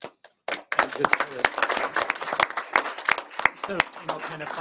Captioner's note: members applauding